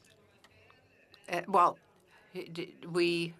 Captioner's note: speaking French